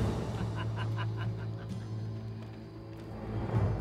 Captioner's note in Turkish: Gülme sesleri